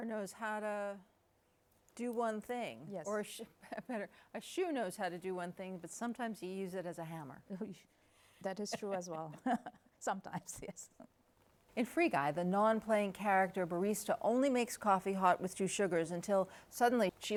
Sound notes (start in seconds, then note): 8.6 laughs